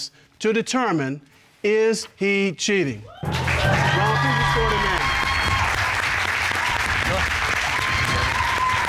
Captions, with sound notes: to determine, is he cheating. -[audience cheering] -Ron, please escort him in. [applause]